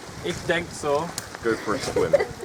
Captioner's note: in German